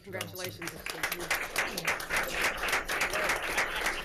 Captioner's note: claps